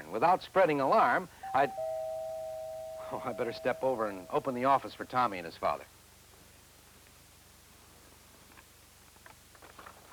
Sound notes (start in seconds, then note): 1.4 doorbell rings